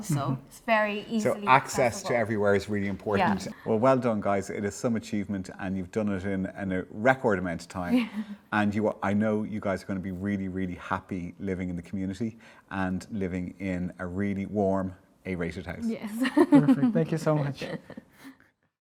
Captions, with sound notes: so it's very easy to travel. - So access to everywhere is really important. - Yeah. - Well, well done guys, it is some achievement and you've done it in a record amount of time. - Yeah (chuckling). - And I know you guys are gonna be really, really happy living in the community and living in a really warm A-rated house. - Yes (laughing). - Perfect, thank you so much.